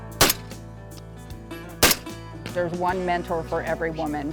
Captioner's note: shots firing